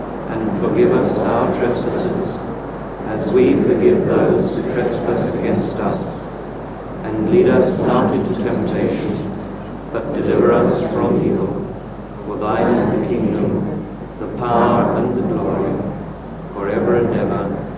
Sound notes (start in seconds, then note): 8.4 people recite Lord’s Prayer